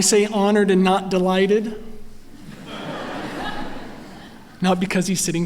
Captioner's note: laughter